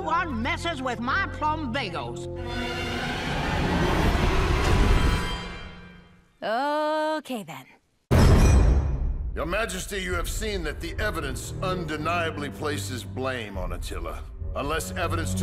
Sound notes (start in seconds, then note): none